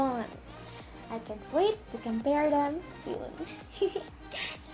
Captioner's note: giggle